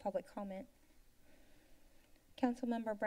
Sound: silence

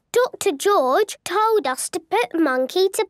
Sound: none

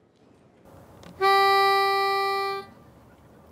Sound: horn blowing

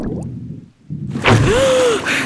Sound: gasping

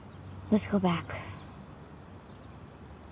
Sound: none

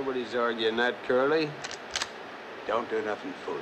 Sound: cocks rifle

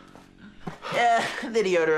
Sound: chuckles

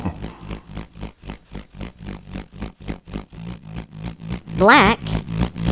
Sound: grader motor

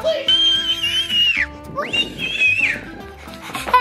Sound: screaming

